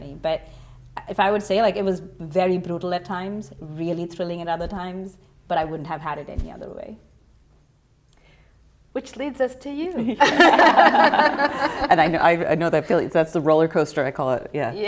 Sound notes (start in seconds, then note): 10.0 laughter